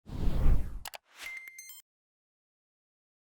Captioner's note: whooshing